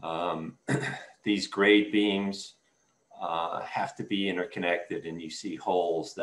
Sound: clears throat

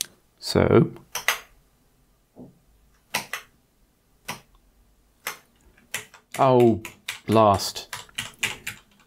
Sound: blank Audio

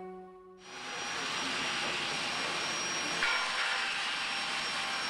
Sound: sander screeching

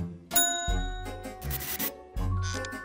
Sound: dings

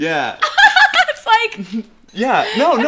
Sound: laughter

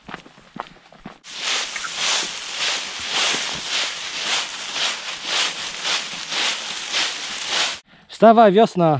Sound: rustling leaves

